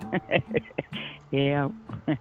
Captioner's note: laughing